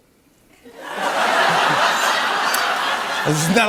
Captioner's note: laughter